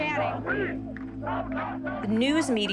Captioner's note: chanting